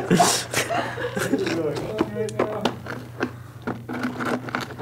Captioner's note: all laugh; rocks crunch